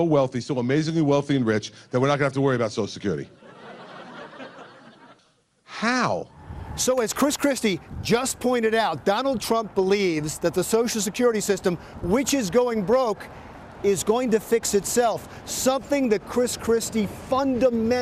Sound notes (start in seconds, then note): 3.3 laughter